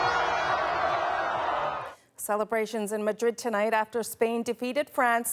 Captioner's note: cheers and Applause